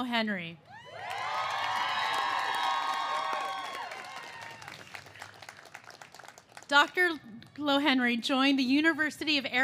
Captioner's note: cheers and applause